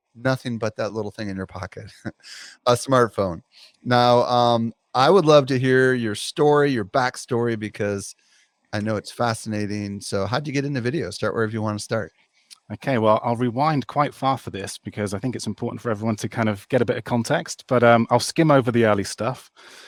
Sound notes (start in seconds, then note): 1.7 laughs